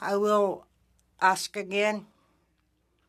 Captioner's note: speaking Indigenous Language